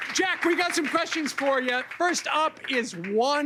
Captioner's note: cheers and applause